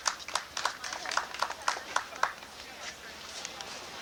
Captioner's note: one person clapping